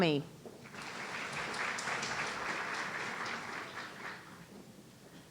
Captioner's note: audience applauding